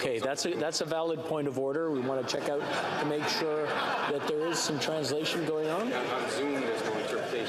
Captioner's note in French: voix de l'interprète